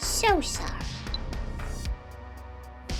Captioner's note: earpiece beeps